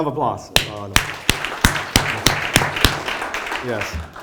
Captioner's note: applause